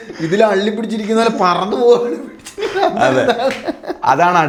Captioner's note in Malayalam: പൊട്ടിച്ചിരി